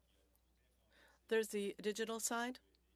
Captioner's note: speaking French